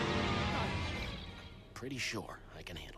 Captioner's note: vampire screeches